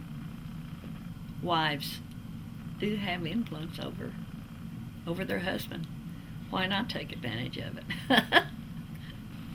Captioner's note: laughs